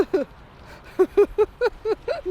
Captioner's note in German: lacht